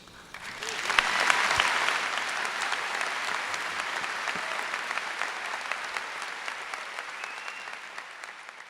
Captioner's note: applause